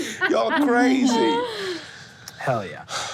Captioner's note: Sofia laughs